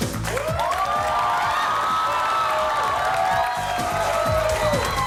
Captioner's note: audience cheers